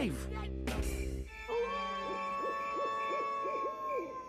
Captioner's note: wolf howling; crickets chirping